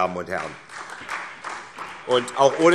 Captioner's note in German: Beifall SPD und vereinzelt Freie Demokraten